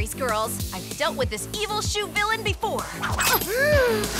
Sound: gasps and screams

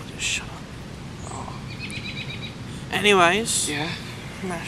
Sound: birds chirp

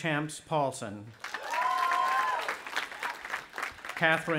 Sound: audience applauding and cheering

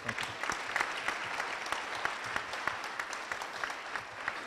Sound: applause

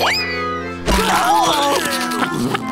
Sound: screaming

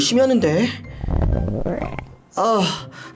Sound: his stomach is growling

